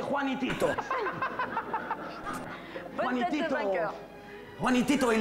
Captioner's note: laughs